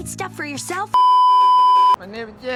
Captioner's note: beeeeeep